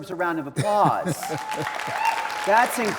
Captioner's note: audience applauding